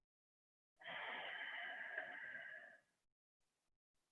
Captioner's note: exhaling